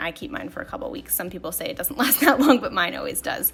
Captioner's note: laughs